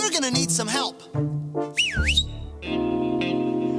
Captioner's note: whistles